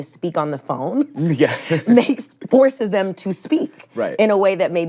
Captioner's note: chuckles